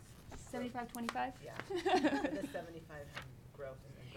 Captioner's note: laughing